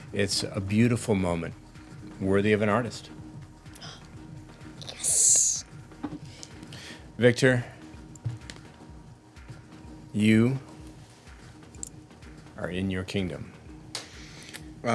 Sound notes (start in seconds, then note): 3.7 gasps